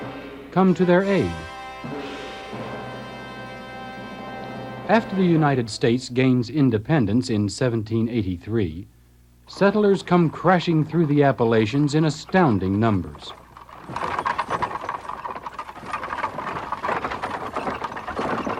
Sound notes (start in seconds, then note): 9.0 wheels rattling